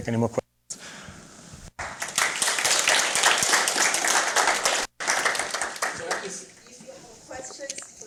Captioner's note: applause